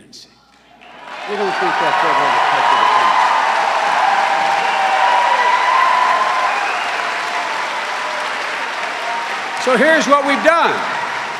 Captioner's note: cheering and applause